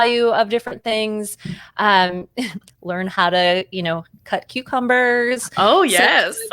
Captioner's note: laughs; laughs